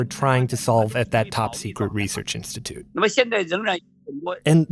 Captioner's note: speaking Mandarin